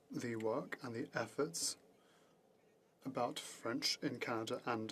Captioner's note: speaking French